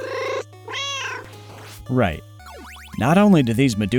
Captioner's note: meow